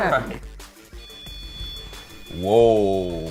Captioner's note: beeping